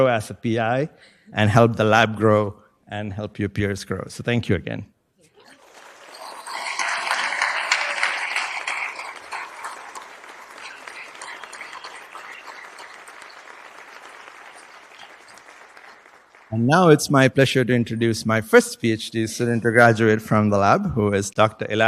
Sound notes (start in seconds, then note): 5.4 applause